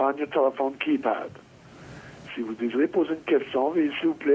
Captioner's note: speaking French